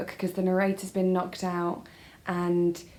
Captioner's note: none